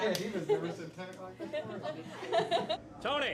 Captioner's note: laughs